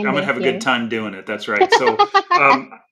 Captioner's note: laughing